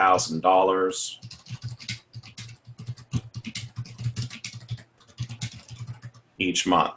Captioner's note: typing